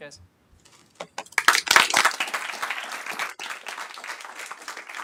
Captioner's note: applause